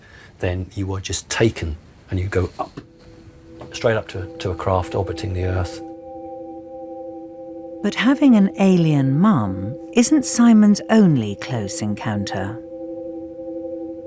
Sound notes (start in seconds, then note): 7.9 voiceover